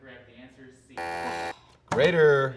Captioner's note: buzzer buzzing